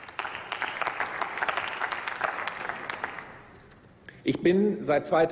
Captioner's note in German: Applaus